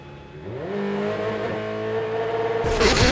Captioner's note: revving